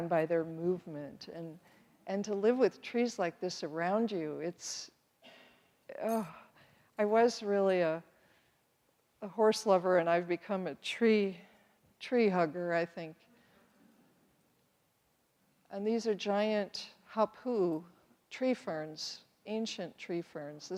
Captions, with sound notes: by their movement and to live with trees like this around you, it's (sighs longingly), I was really a horse-lover and I've become a tree-hugger, I think. And these are giant Hãpu'u tree ferns, ancient tree ferns.